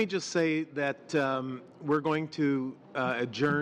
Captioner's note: speaking French